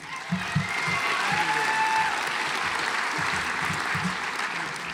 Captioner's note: audience applauds